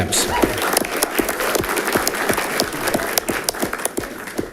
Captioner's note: audience clapping